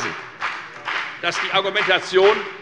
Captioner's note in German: Beifall bei der FDP